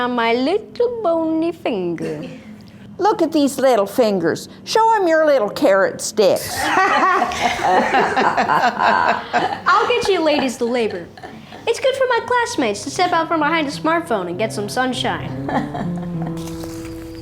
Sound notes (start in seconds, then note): 6.5 ladies laugh